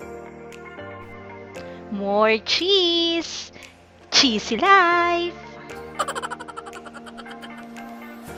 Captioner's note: laughing